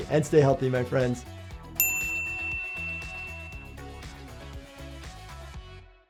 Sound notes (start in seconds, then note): 1.7 upbeat music; 1.8 bell dings